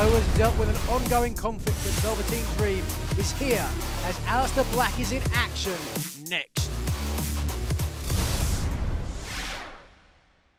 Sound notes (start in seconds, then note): none